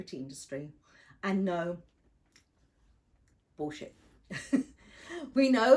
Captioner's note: chuckling